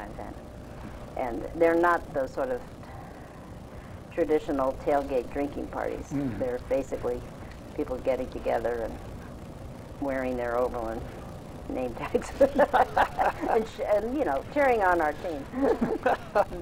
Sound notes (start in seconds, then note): 12.0 laughs